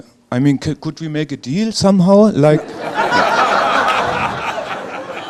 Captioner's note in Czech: smích